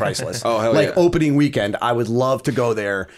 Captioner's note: laughter